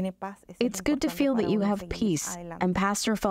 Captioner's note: through translator